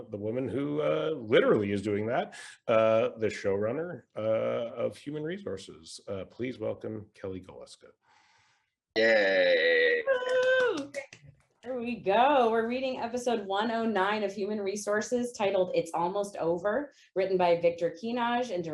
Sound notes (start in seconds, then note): 9.0 all cheering